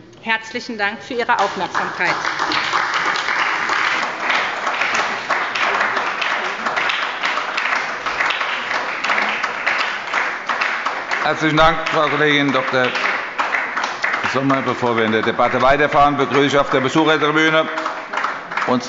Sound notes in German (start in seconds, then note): 2.9 Anhaltender Beifall bei der SPD